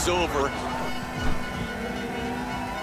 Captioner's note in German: Stadionhupen